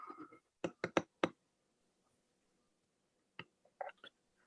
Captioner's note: keyboard typing